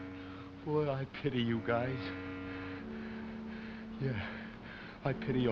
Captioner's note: panting